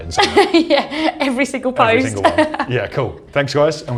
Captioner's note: laughs